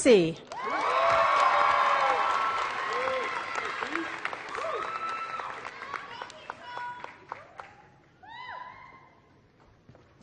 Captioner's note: applause